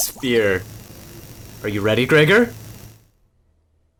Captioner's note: buzzing